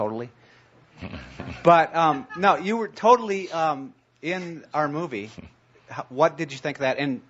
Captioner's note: some laughter